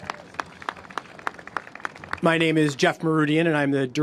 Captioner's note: applause